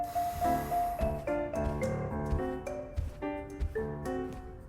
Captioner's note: footsteps